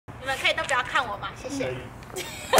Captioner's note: laugh